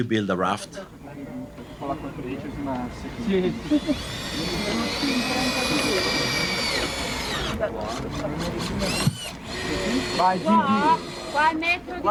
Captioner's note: speaking foreign language